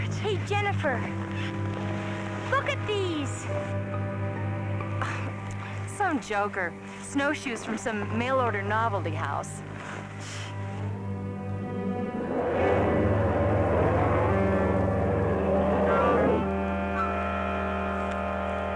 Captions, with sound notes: Hey, Jennifer, look at these. [scoffs] Some joker. Snowshoes from some mail order novelty house. [roaring]